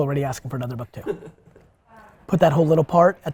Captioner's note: laughs